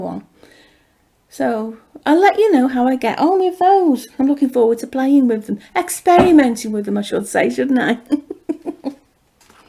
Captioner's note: chuckles